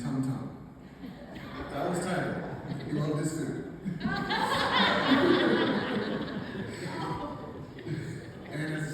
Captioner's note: laughter